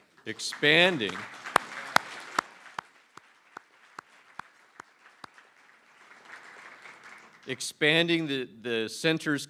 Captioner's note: applause